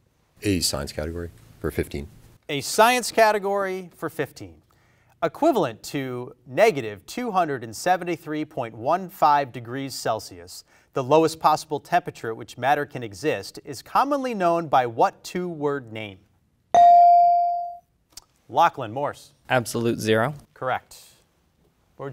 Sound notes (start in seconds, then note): 16.7 bell rings